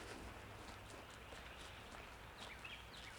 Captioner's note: footsteps on grass